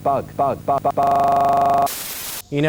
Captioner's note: voice glitching